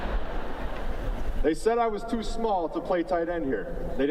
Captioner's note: laughter